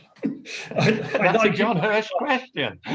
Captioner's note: laughing